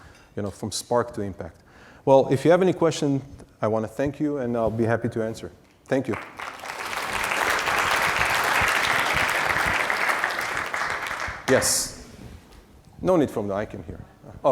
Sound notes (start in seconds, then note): 6.1 audience applauding